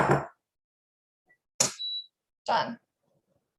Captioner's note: beep sound